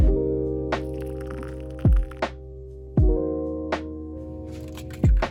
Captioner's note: hot water pouring